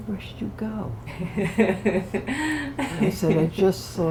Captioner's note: laughter